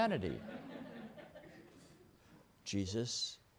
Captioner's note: laughter